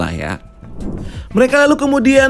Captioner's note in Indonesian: suara transisi